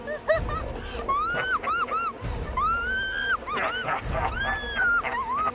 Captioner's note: leprechaun laughing; Jane screaming; suspenseful music